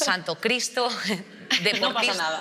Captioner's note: she laughs